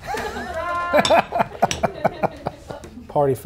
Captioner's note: laughing